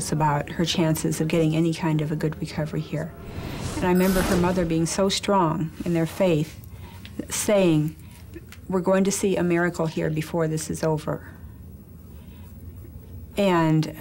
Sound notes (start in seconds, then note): none